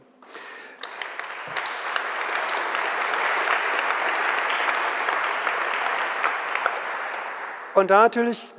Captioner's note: general applause